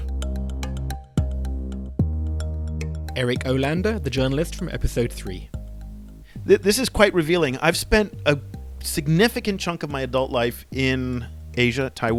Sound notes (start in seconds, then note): 0.7 voiceover